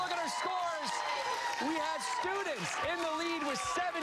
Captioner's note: cheers and applause